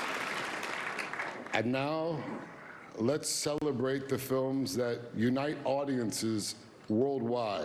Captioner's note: applause